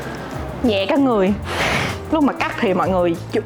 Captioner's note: phewwwwwww